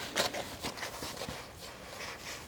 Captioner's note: scratching